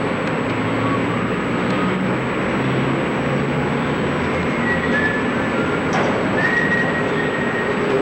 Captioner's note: whistling